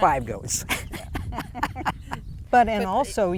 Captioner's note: laughs